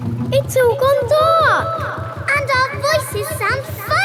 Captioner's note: echoes